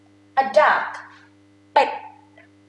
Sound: talking in foreign language

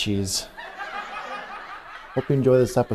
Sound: laughter

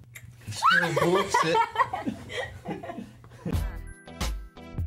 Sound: laughing

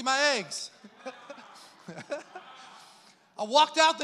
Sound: congregation laughs

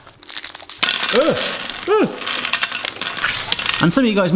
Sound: nuts spilling

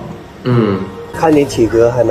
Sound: nonverbal grunt as interjection

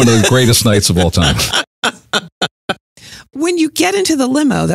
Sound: laughs

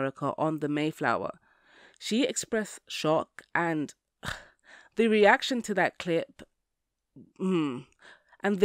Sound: hmmm

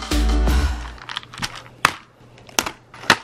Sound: pills rattling

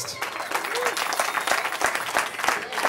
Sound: cheering

